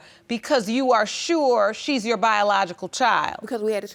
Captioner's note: none